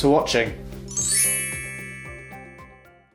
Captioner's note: logo chiming